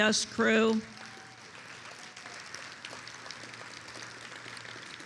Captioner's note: attendees applauding